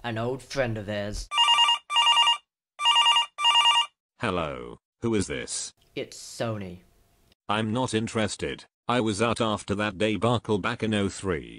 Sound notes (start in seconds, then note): 1.2 phone ringing